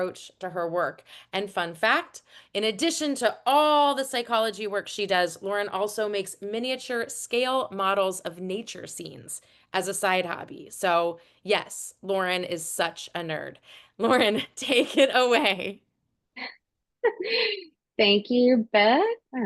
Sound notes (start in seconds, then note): 17.0 chuckles